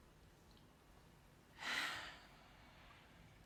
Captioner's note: Carmen sighs